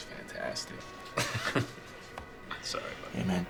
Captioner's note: chuckles